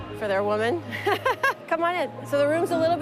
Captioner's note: laughing